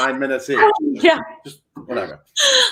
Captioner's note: laughs